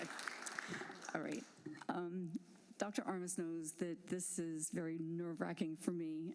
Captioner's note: applause